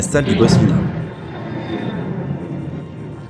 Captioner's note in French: bruit de la porte